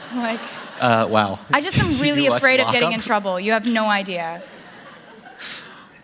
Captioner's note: laughter